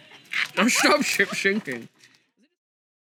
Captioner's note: with exaggerated slurring